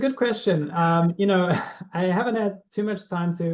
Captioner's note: chuckles